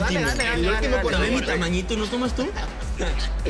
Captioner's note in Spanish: Hablan al unísono